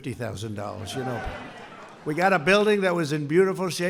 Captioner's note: applause